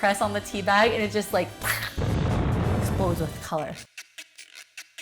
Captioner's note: explosion